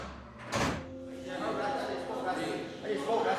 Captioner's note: indistinct chatter